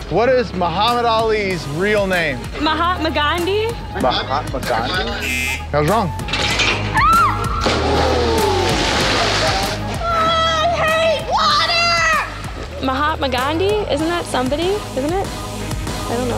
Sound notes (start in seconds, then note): 5.1 buzzer; 6.9 screams; 7.9 water splashing